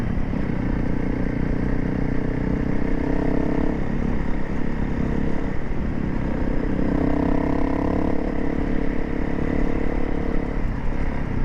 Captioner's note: engines